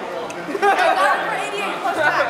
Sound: girls laugh

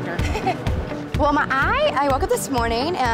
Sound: laughing

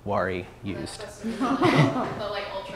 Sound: laughter

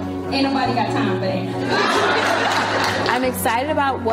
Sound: audience laughs

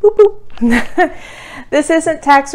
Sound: laughs

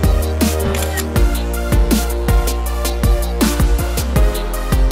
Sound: upbeat music; camera shutter clicking

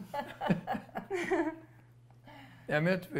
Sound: laughter

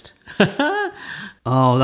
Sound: laughs

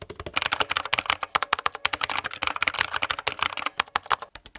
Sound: MacBook Pro 14 Keyboard Typing; Kikron k8 Retro Keyboard Typing; Apple Magic Keyboard Keyboard Typing

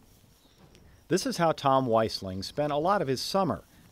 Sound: voiceover

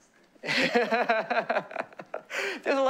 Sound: laughter

